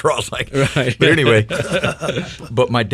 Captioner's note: men laughing